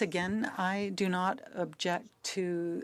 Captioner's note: speaking French